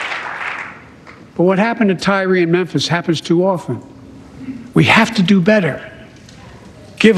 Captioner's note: cheers and applause